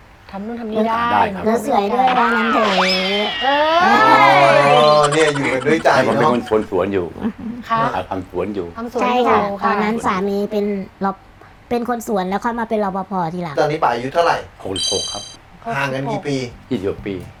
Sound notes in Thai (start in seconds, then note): 1.9 โห่ร้อง